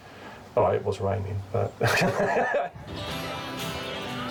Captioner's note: laughs